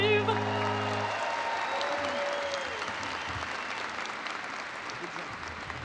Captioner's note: audience cheering and applauding